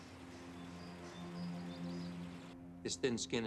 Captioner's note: bird chirp